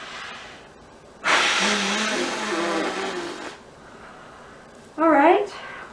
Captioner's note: blows air forcefully